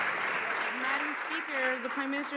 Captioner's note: some Applause